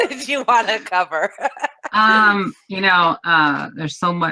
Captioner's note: laughs